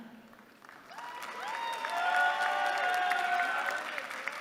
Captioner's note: applause